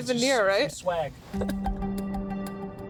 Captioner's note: laughing